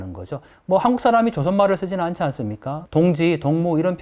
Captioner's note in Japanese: 北朝鮮語